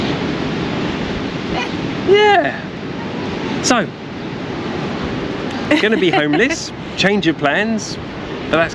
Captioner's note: laughter